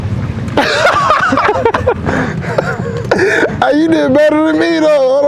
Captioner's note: both laughing